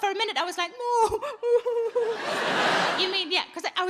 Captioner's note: audience laughing